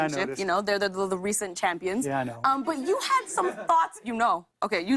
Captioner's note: laughter